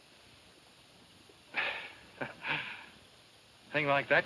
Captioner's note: chuckles